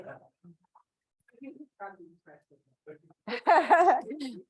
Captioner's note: chatter; laughs